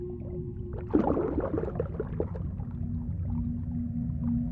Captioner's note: ominous music; water sloshes; ominous music